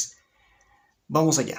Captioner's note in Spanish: Silencio